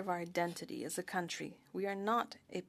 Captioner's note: speaking French